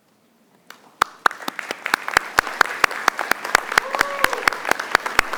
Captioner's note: audience applauding